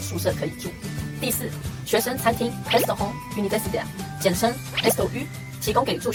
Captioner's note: in french